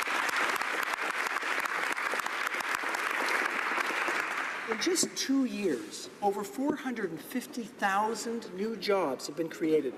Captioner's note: applause